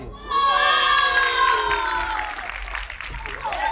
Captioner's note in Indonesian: shouting